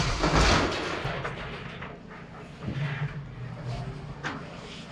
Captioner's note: roofing sheets rattling